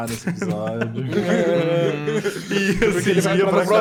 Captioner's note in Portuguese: risos